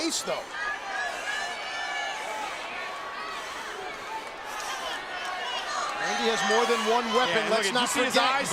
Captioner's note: applause